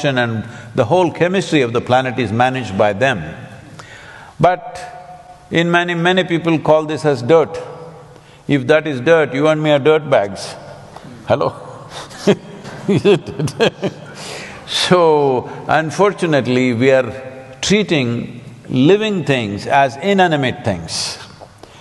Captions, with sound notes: and the whole chemistry of the planet is managed by them. But many people call this as dirt. If that is dirt, you and me are dirtbags. Hello (Laughs)? Isn't it? So, unfortunately we are treating living things as inanimate things.